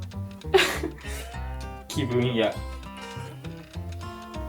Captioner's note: laughs